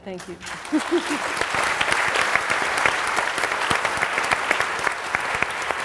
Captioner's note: applause